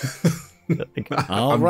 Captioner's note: laughter